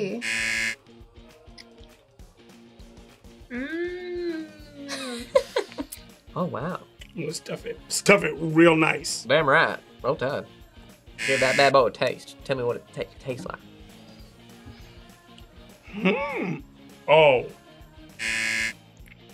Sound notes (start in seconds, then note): 0.2 buzzer; 4.4 laughs; 9.3 in Southern accent; 18.2 buzzer